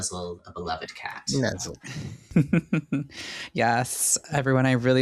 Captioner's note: chuckling